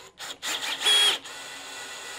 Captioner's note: buzzing